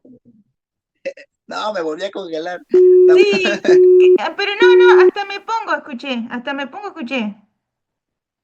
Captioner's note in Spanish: risas